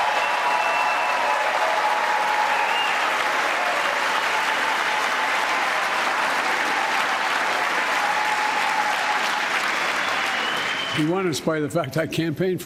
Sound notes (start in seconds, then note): 0.0 cheers and applause